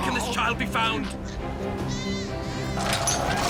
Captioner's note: shouting; whinnying